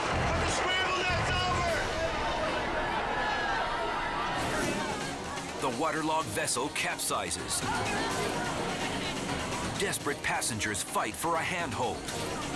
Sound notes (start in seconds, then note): 2.6 immigrants chattering; 8.1 dramatic music